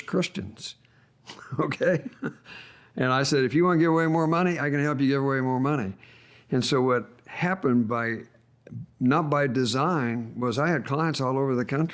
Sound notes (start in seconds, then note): 1.3 laughs